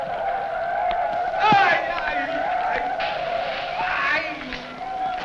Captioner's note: men shouting